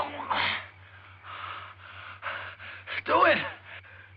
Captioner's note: panting